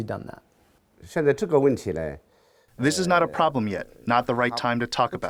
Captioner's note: through translator